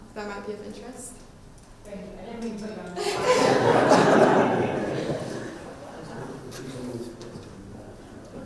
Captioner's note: audience response